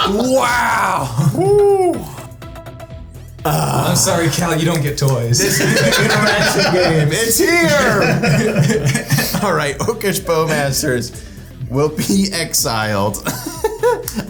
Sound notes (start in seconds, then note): 5.3 players laughing; 13.5 laughs